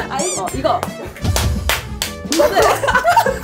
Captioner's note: clap, clap, clap, clap